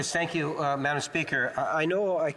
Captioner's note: speaking French